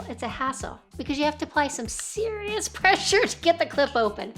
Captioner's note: chuckles